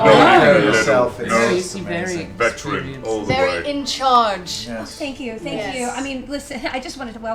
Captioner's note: none